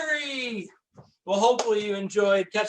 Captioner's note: hands clapping